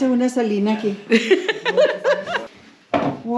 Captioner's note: laughs